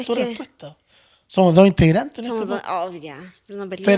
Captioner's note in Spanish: none